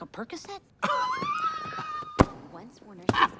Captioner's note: Katya laughs